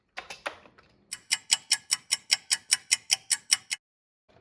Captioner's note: sound of a ticking clock